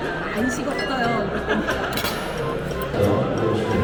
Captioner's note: he is just laughing